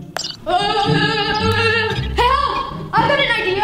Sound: yelling

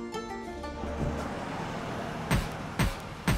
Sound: car halting

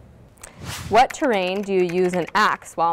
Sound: air whooshing; keyboard clicking

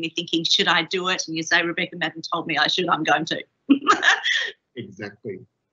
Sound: laughs

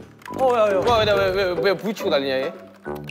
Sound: thud

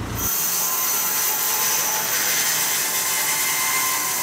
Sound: saw blade whirring

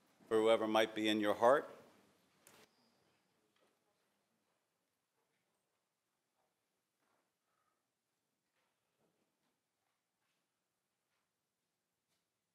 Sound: moment of silence

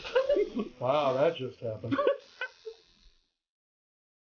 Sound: laugh

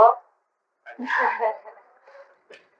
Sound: laughter

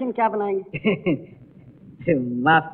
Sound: laughs

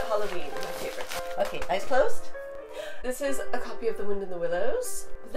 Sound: gasp

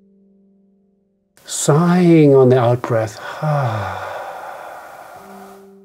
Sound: sighs

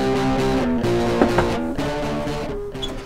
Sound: knocks

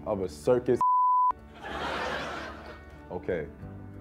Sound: crowd laughing

